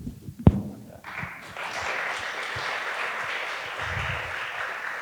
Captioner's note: audience applauding